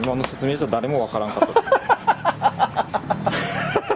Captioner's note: laughs